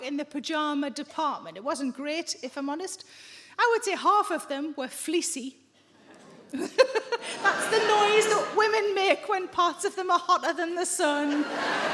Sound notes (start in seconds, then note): 5.9 audience members groan; 11.2 audience laughing